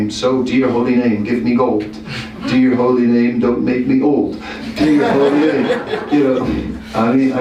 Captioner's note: laughter